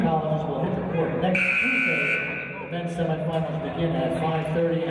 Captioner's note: buzzer